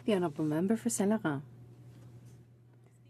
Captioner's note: speaking French